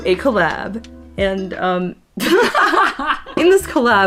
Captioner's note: both laugh